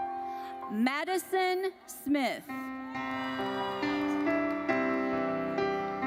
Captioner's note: audience cheers